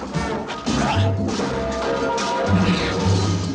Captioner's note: banging